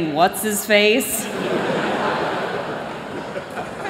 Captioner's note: laughter